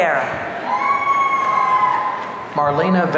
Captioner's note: audience cheering